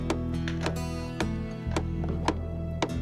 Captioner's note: hammering